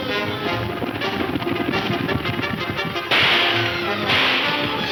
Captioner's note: shots ringing